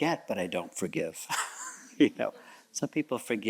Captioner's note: chuckles